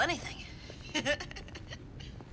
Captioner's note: chuckles